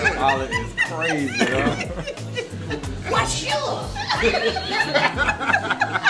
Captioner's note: laughing